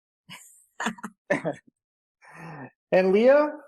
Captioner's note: laughs